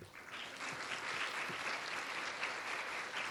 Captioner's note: applause